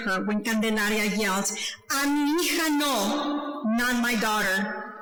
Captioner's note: speaking foreign language